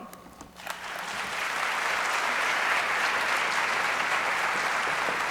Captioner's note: audience applauds